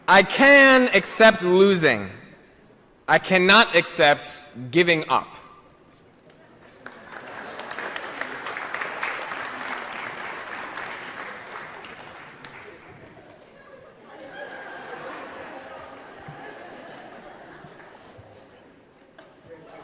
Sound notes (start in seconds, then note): 6.6 applause & Laughter